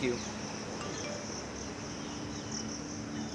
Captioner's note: phone Beeps